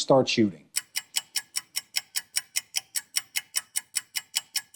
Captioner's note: timer clicking